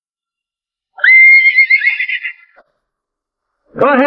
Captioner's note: horse whinnying